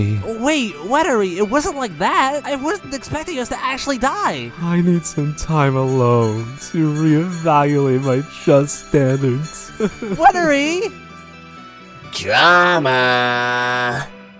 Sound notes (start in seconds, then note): 9.8 weathery sobbing